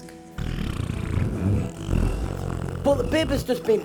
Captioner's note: baby trumps very loudly